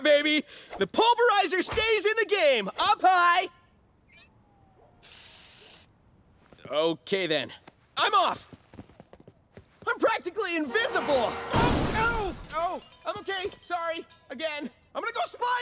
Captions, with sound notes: The Pulverizer stays in the game. Up high. Okay then. I'm off! I'm practically invisible. [thudding] Oh, ow! Oh, I'm okay. Sorry. Again. I'm gonna go spy now!